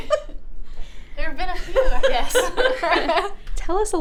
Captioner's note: laughing; laughs